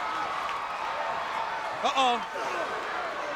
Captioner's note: crowd roaring